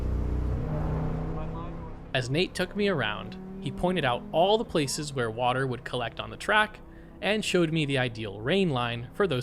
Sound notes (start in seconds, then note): 1.8 speaks faintly